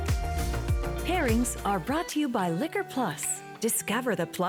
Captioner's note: announcer voice